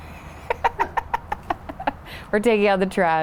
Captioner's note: chuckles